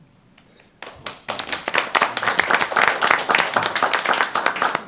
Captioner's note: applause